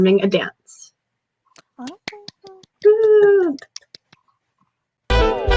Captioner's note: claps